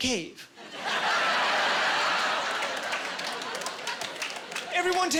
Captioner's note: laughing